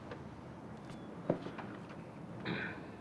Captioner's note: clears throat